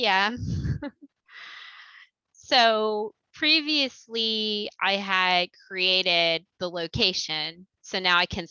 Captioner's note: laughter